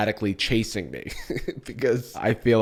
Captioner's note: chuckles